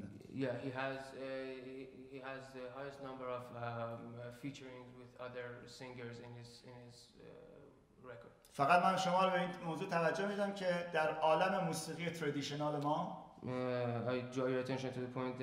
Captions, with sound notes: He has the highest number of featuring with other singers in his record. [SPEAKING IN FARSI] I draw your attention to the point